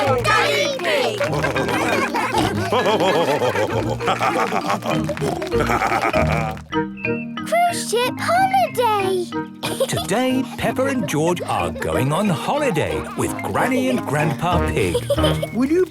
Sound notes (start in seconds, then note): 2.1 all cheering; 3.2 laughing; 5.3 snorting